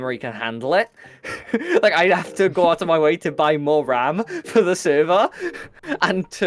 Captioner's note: laughs